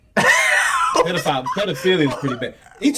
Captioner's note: laughing